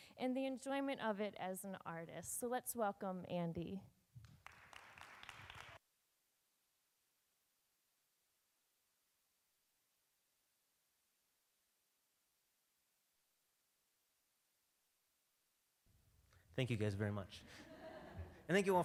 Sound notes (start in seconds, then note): 4.2 applause; 17.5 audience laughs